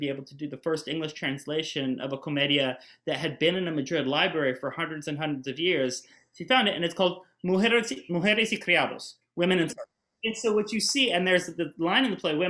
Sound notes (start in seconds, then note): 8.2 speaks in Spanish